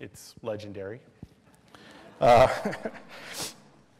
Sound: laughter

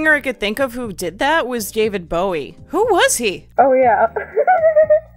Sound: giggles

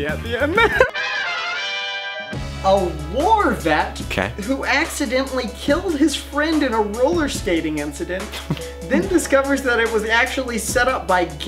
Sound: laughs

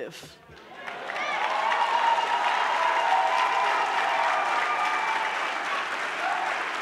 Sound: audience clapping; audience cheering

